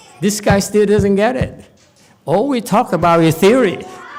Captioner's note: laughs